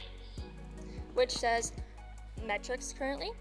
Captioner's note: recorded Voice